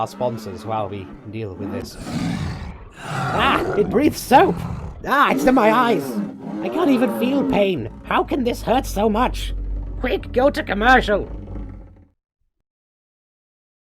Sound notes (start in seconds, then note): 2.0 dragon roars and screams